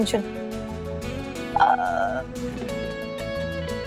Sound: stammers

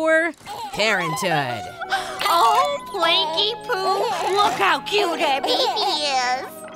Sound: gasps

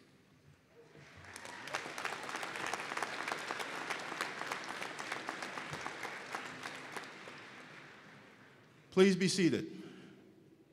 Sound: applause

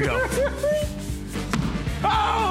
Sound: laughter

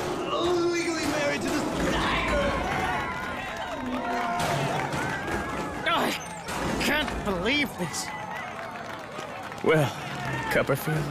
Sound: cheering and applause

